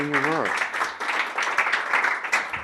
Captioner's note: clapping